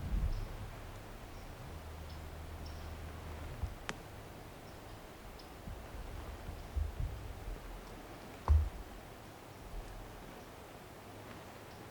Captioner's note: footsteps heard